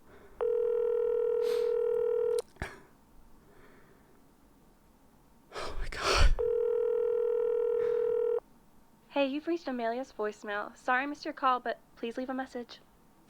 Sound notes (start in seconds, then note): 0.4 phone rings more; 7.3 more ringing